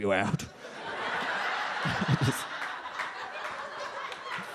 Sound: audience laughs

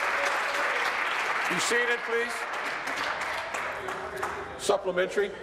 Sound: applause

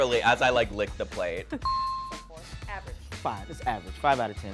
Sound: bell chimes

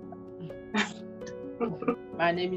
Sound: laughter

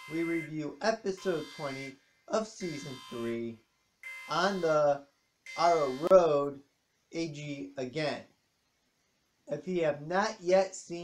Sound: ALARM stops

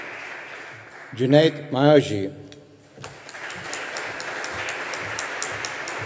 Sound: audience applauding

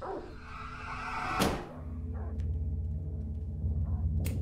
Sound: window slams

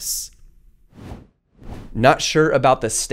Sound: air whooshing

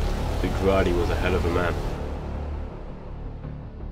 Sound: none

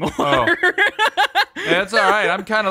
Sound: laughing

